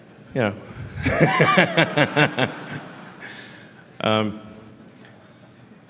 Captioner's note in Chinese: Laughter; 笑声